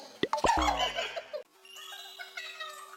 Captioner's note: laughter